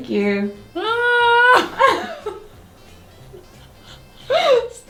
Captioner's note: screams